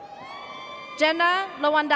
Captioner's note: audience cheers